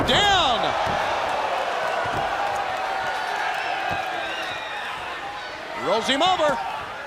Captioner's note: crowd cheering